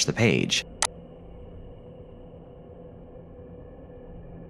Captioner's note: mouse clicking